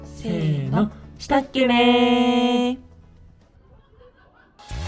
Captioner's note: in the dialect of Hokkaido